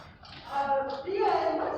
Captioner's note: SOUND EFFECT: footsteps; SOUND EFFECT: foreboding noises